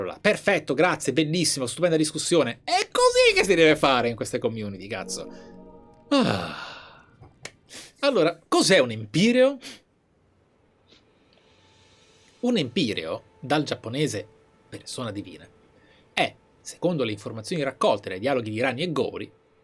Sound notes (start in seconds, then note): 6.1 sigh